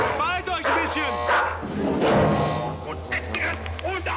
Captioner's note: speaking german